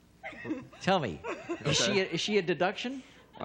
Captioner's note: laughter